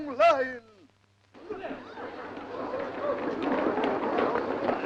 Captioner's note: group chattering